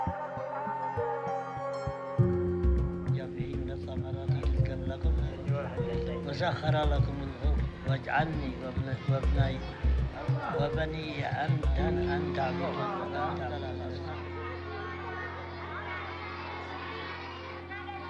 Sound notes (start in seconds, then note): 0.2 gentle instrumental music; 3.2 speaking in a foreign language